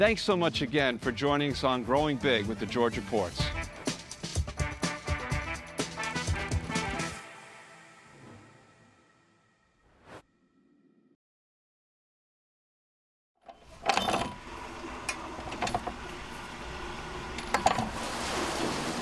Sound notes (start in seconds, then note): 5.2 sound of a wheel turning